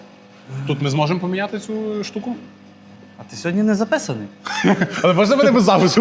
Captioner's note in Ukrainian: сміх